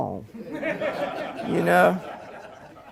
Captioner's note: laughter